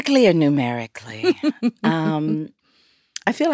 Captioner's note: laughs